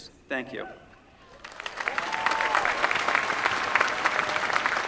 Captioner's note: applause